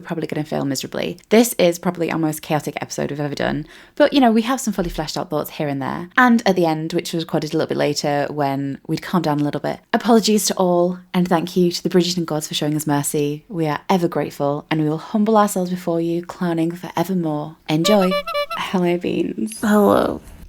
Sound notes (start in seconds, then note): 17.8 clown horn